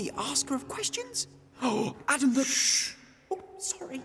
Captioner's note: gasps